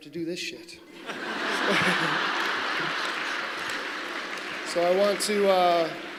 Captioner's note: applause